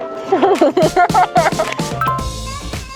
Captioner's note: laughter